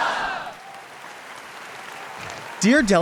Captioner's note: audience applauding; audience cheering